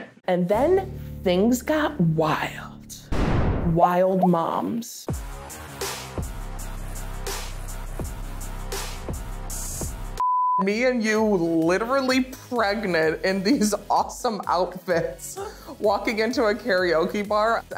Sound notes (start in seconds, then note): 5.1 party music; 10.2 beep